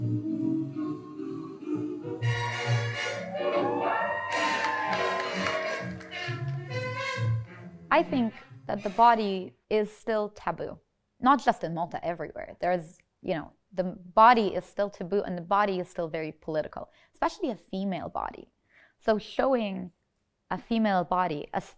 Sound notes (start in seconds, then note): 0.0 vintage music; 3.2 audience cheers